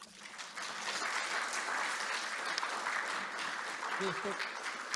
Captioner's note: applause